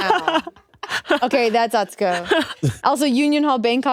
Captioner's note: Atsuko laughing